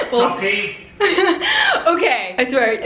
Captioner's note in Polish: Śmiech